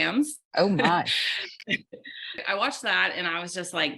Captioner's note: laughing